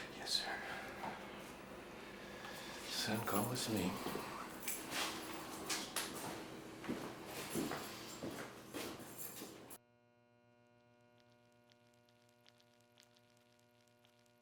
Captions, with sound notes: - Yes, sir. - So come with me. (footsteps departing) (keys jangling) (electricity humming) (bugs squelching)